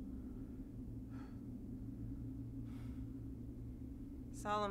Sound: heavy breathing

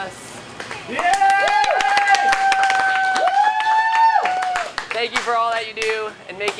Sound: cheering and applause

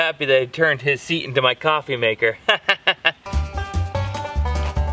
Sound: laughs

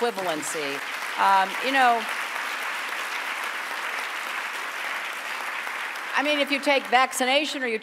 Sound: applause

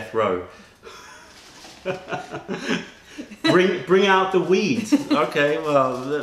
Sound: laughter

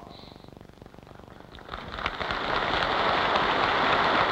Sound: applause

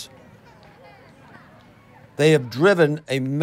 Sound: people chattering

